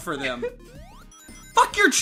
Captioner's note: giggling